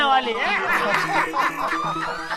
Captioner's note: laughing